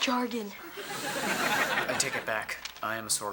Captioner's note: audience laughing